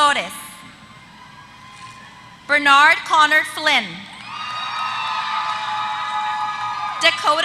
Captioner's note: applause